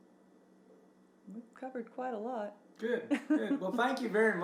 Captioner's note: giggles